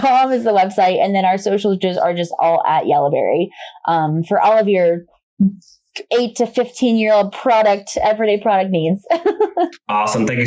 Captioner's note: laughs